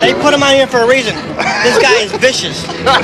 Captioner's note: laughter